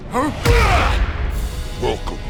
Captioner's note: thud